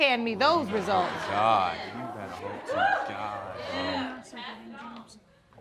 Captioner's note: muttering